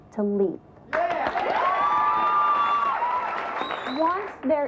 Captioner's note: audience applauds